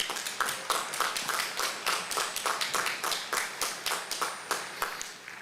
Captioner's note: applause